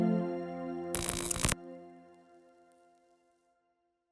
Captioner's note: static